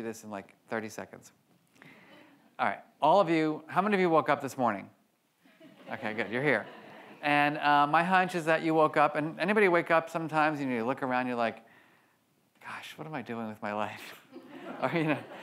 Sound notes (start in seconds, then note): 5.6 audience laughs